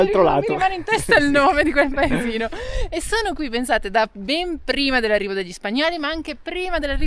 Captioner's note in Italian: risate